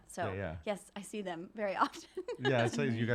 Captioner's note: giggles